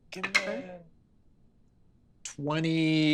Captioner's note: dice clatter